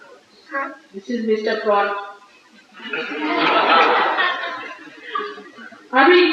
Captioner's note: laughter